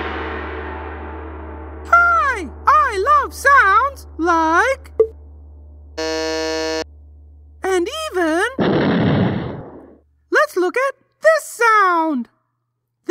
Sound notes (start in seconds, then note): 8.5 explosion